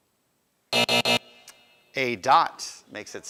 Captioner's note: buzzer